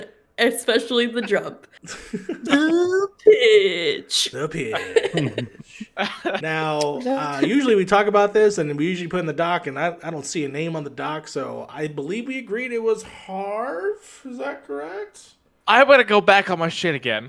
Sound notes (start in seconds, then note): 4.3 laughs